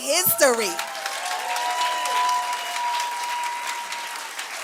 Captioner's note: cheering